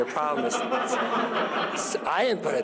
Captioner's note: laughter